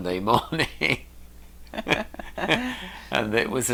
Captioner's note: laughing